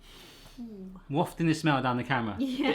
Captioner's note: sniffs